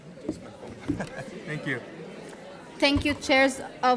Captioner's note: laughing